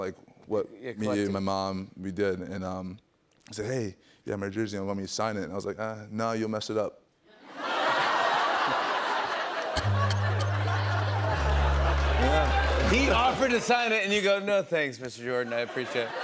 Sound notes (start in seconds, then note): 7.4 laughter; 9.8 sad tuba plays